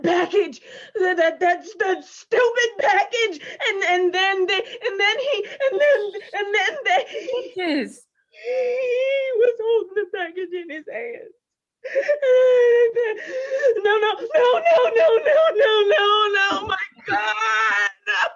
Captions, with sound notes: That package, that stupid package. And then he- (Peaches stammering) - Peaches. - He was holding the package in his hands. No, no, no, no, no, no, no, my God, no.